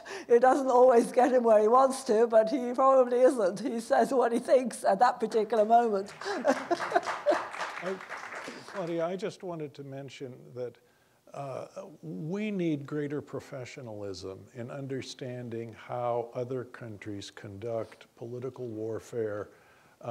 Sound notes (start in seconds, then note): 6.0 audience applauding; 6.1 laughing